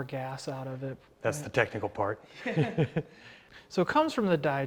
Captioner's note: both laughing